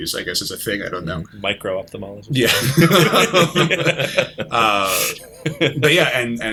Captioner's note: laughter